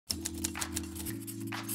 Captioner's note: keys typing; pen scribbling